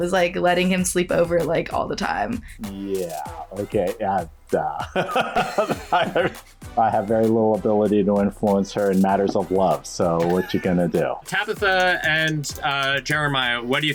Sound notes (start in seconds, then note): 4.4 sputters; 4.7 both laugh